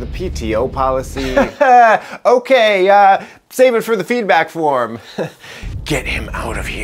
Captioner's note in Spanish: Risas